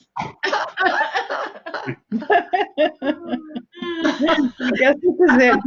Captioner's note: laughter